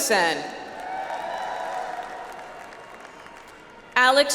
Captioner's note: audience applauds